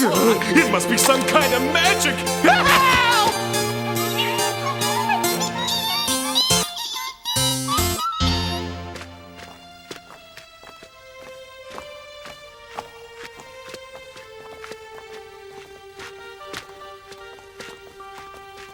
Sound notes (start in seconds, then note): 2.7 playful music; 2.7 yelling